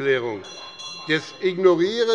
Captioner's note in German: Glockenzeichen des Präsidenten